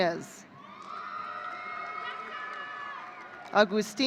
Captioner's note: audience cheering